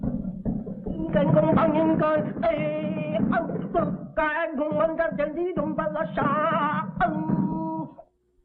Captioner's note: chanting in an unknown language